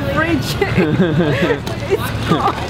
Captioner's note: giggles; laughs